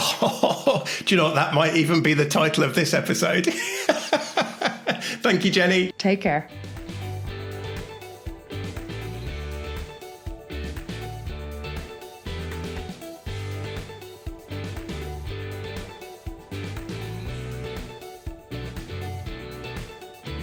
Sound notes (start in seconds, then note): 3.4 laughs; 7.2 upbeat music